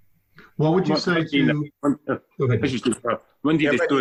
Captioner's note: voice muffling